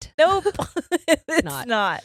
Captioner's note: laughing